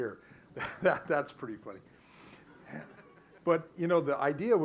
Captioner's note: laughs